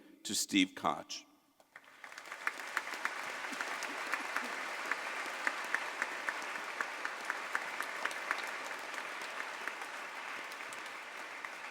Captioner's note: applause